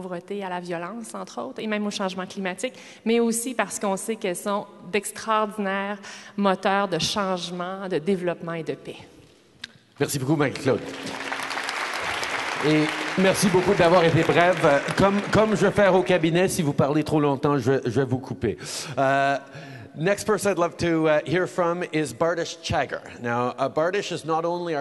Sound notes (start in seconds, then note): 10.3 applause